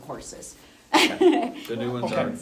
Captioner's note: laughs